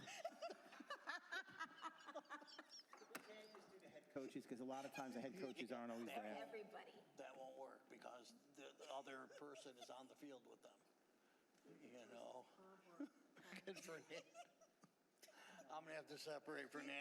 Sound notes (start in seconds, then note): 8.7 laughter